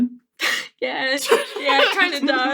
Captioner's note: laughing